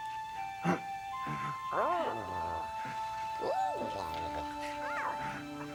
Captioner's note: soft music; Tasha babbles and coos